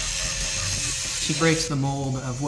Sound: saw sounds

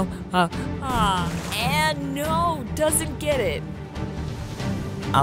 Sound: water splashes

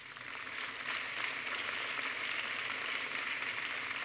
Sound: applause

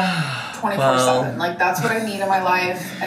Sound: sighs

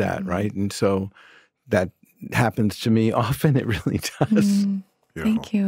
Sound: laughs

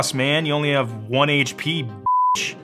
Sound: beep

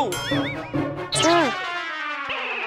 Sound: whimpers

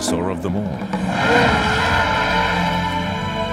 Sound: growling

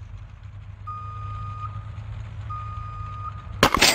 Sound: car going backward beeps

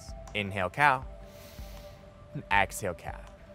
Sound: inhaling

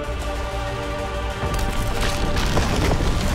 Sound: ice cracking

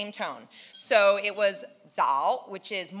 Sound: speaking in foreign language

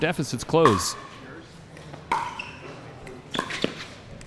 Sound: ball bouncing

